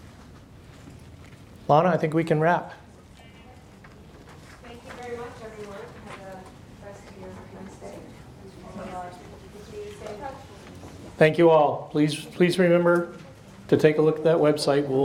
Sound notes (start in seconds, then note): 7.6 speaks faintly; 8.6 murmurs